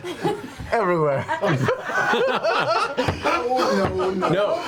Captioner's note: all laugh